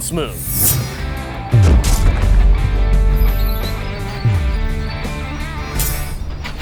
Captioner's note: image swishes; text thuds